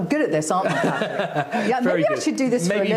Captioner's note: laughs